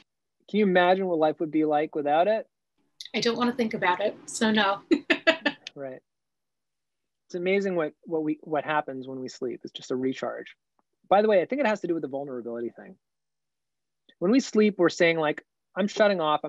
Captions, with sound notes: - Can you imagine what life would be like without it? - I don't want to think about it, so no (laughs). - Right, it's amazing what happens when we sleep. It's just a recharge. By the way, I think it has to do with the vulnerability thing. When we sleep, we're saying like I'm shutting off.